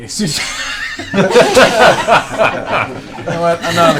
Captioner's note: laughter